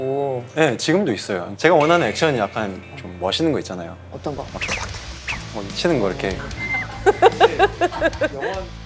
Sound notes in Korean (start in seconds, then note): 4.4 훅 훅